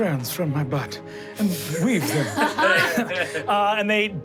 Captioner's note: everyone guffaws